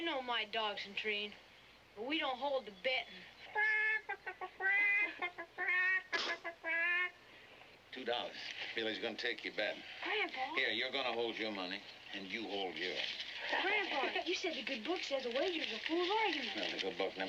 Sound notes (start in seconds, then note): 3.4 imitates chicken clucking